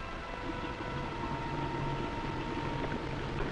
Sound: bubbling

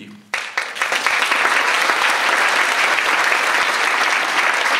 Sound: audience applauds

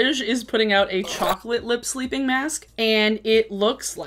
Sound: static squeals

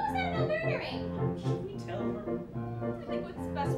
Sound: whisper

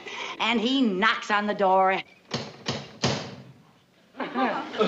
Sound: knocks at door

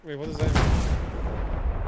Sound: boom

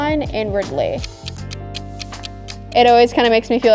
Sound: clock ticking

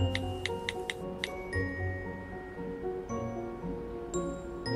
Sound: birds chirping; mysterious music; phone clicking

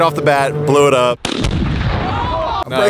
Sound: explosion

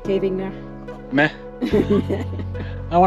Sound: laughter

